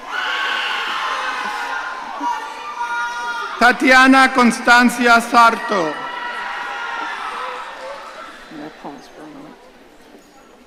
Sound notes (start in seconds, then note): 0.0 audience cheering